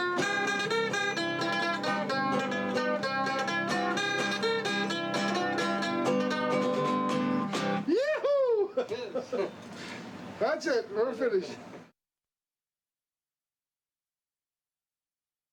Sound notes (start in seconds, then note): 0.0 mandolin and guitar music; 7.8 laughing